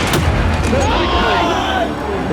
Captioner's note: cheers